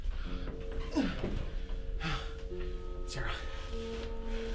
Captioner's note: grunts